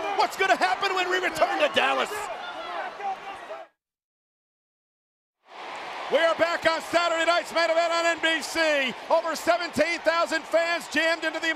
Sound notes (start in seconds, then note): 2.2 people shouting